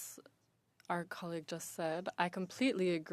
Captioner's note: speaking French